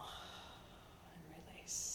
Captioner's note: sighing